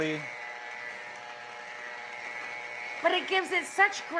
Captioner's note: mixer whirring